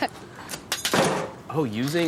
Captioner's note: metal clanging